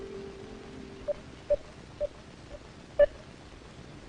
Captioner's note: beeping